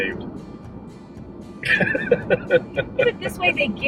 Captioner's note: chuckling